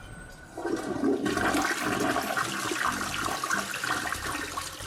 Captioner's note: water rushing